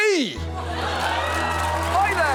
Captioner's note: audience cheers